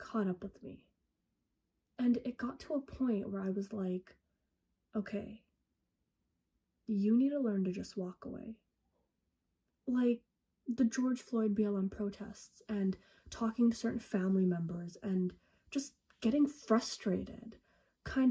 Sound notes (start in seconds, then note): none